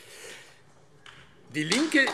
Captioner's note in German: Beifall AfD